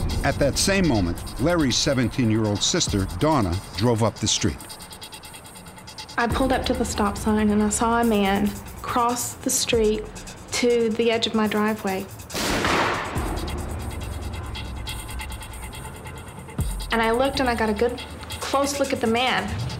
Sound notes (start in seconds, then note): 12.3 gun shot